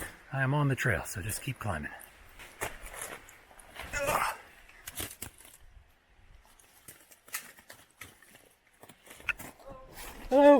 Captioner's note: grunting